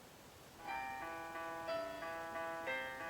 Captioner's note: alarm plays